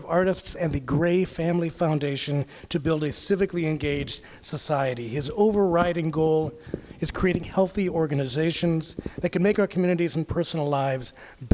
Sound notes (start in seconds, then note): none